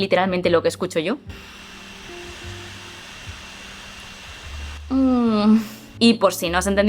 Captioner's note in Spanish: Sonido de microondas